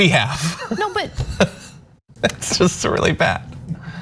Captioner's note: laugh